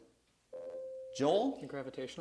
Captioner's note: buzzer sounds